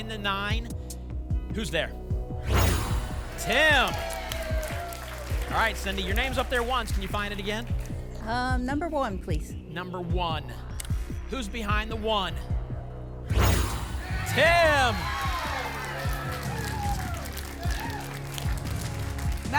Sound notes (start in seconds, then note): 2.4 whoosh; 4.4 applause and cheering; 13.2 whoosh; 15.6 applause and cheering